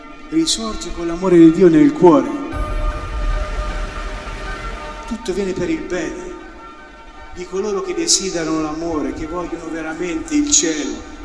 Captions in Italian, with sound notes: risorge con l'amore di Dio nel cuore? [rumore dell'acqua] Tutto viene per il bene di coloro che desiderano l'amore, che vogliono veramente il cielo,